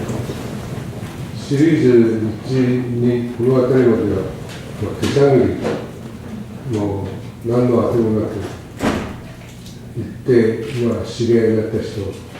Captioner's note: japanese